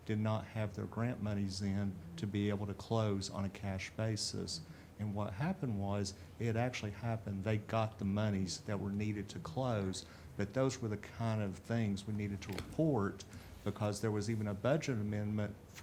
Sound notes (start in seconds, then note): none